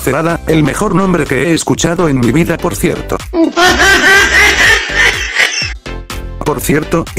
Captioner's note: mujajajajajaja